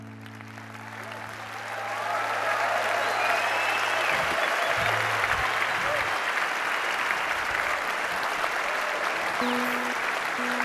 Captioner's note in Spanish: Aplausos